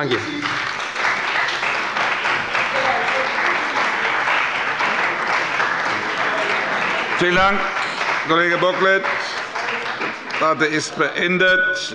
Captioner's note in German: Beifall bei dem BÜNDNIS 90/DIE GRÜNEN und der CDU